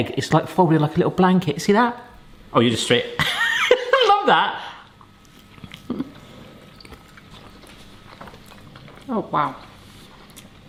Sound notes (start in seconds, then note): 3.2 laughs; 4.9 mouth chewing